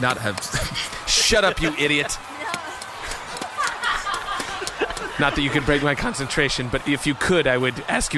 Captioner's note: laughs; all laugh